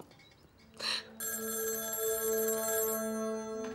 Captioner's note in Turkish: Telefon çalıyor